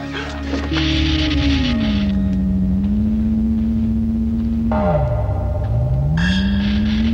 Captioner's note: machine crackling; machine whirring; ominous music